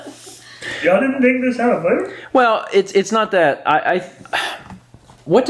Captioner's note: sigh